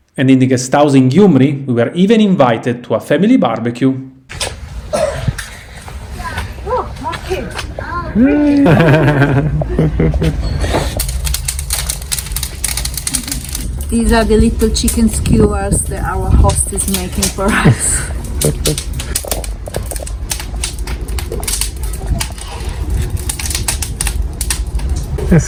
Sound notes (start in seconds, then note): 4.3 footsteps; 11.4 crackling fire sound; 17.3 laughing; 18.5 crackling fire sound